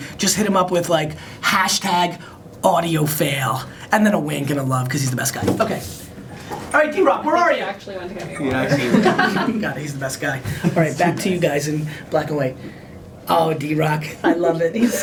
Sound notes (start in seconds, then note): 8.2 people laughing